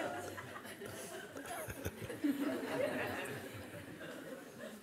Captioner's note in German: Lachen